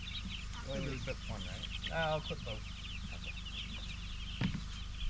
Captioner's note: birds chirping